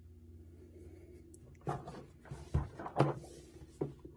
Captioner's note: clatter from the contents inside the box shifting